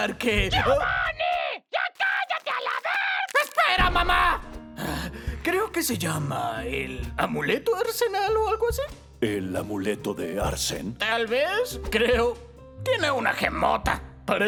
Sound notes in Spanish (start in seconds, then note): 4.7 Suspiro